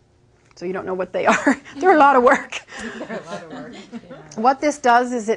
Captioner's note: laughing